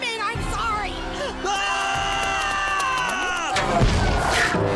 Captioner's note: both scream in unison